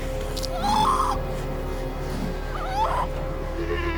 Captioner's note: sea lion groaning